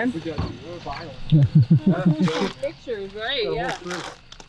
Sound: casual chatter

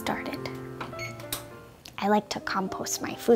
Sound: oven beeping

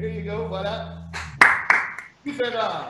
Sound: applause

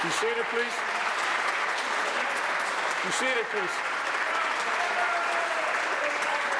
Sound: applause

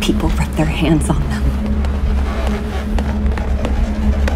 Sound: rubbing of a balloon

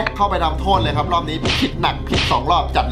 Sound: radio

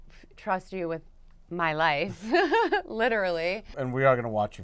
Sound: laugh

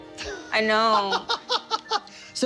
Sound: laughs

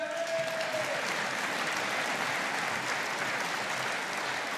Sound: audience applauding

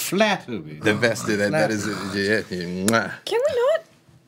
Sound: kissing sounds

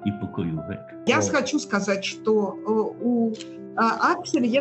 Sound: in russian

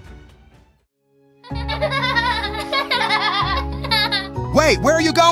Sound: children laughing

